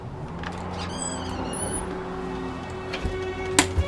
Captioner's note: door creaks open